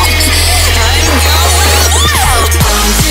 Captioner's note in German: gluckst